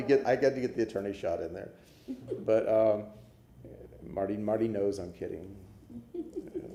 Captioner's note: laughter